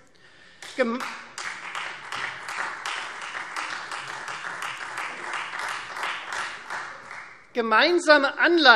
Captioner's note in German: Beifall Freie Demokraten